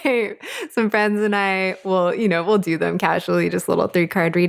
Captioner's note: laughing